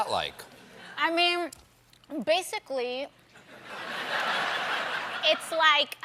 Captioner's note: laughter